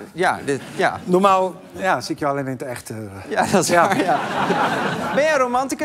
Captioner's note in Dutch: gelach